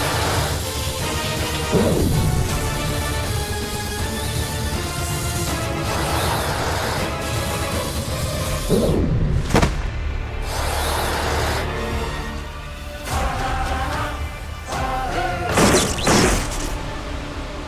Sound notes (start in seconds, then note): 9.4 thud; 15.6 thud